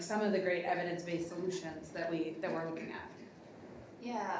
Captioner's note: none